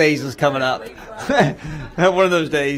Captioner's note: laughter